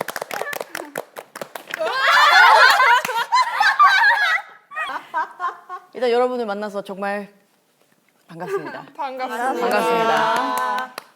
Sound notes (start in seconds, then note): 1.8 laughing